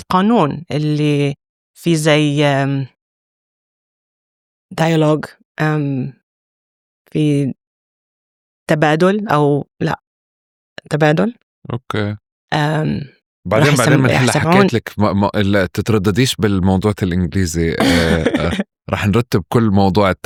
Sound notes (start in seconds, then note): 6.9 conversation